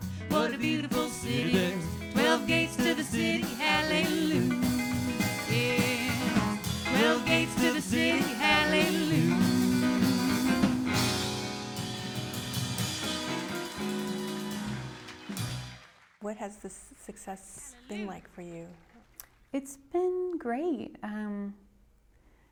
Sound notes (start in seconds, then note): 8.7 cheering and applause